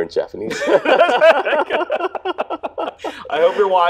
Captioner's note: both laughing